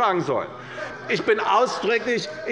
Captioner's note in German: Lachen bei der SPD